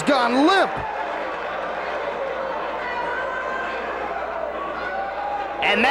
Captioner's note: spectators cheering